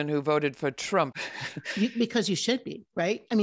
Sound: laughing

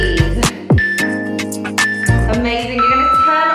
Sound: countdown timer beeping

